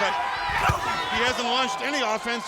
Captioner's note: body thudding